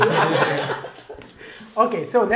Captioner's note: Gülüşmeler